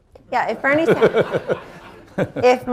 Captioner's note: laughter